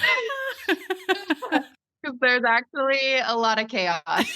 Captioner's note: laughing